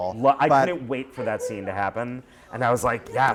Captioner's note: voiceover